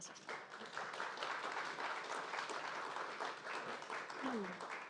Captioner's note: audience applauding